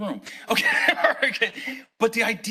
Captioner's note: laughing